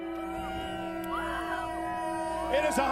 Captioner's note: audience cheers